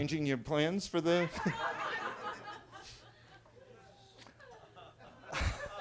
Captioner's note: attendees laughing